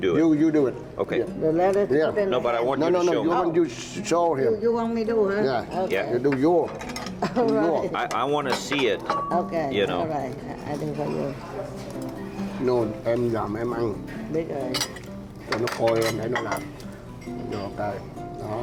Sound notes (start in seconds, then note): 12.7 parents converse in Vietnamese; 15.6 gentle guitar music